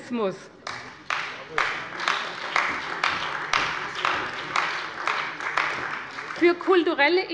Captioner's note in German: Beifall bei der CDU und dem BÜNDNIS 90/DIE GRÜNEN